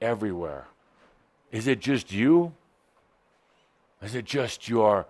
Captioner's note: none